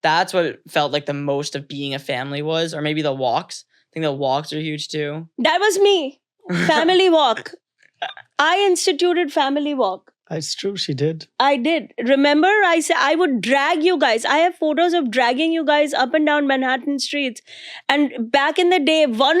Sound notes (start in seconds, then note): 6.5 child chuckling